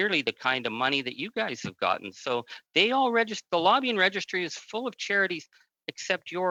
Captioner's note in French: voix de l'interprète